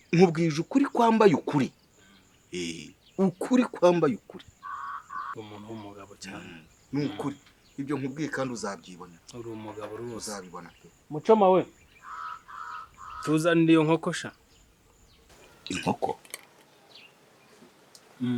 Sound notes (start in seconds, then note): 11.7 Cri d'un crapeau